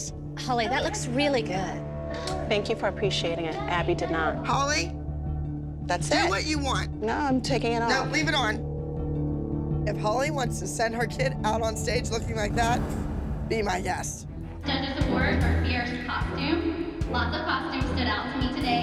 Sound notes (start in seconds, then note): none